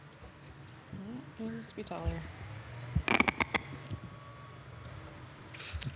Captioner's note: speaking faintly